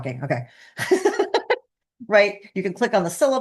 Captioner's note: laughing